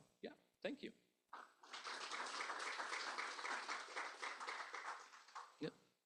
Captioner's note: applause